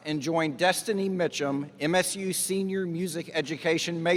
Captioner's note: none